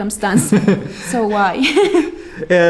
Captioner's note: laughing